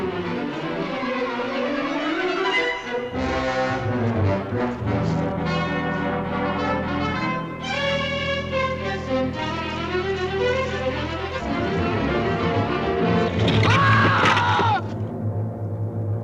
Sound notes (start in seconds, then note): 0.1 tense music; 13.5 scream